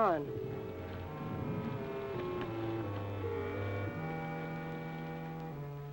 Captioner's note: mysterious music; thunder rumbling